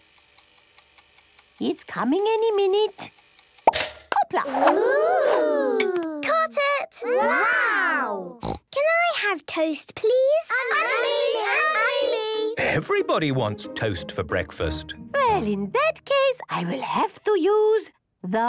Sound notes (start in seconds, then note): 0.0 toaster ticking; 3.7 pops; 10.5 all calling out